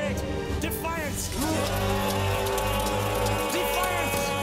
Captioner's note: all shouting